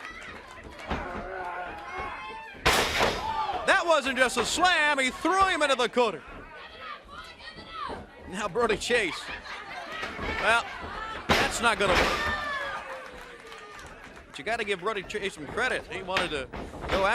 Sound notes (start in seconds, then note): 8.3 crowd chatter; 14.9 crowd cheering